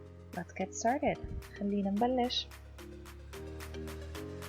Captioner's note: in Arabic